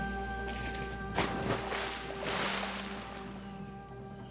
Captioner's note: splashing